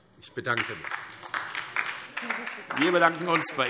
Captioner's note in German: Beifall DIE LINKE